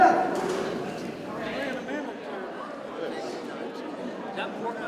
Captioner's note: attendees chattering